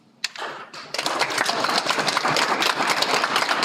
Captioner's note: Aplodit